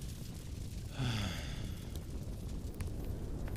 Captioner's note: calmly exhales